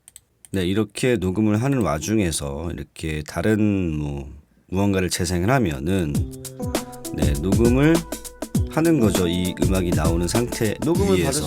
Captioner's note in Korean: 녹음된 소리 재생중